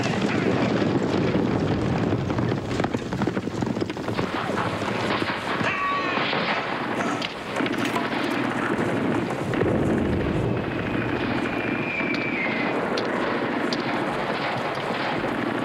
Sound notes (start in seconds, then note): 0.2 explosion; 5.6 screams